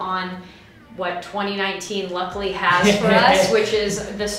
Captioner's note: laughing